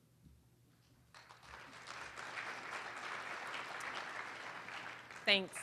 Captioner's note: applause